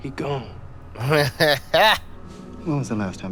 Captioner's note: laughs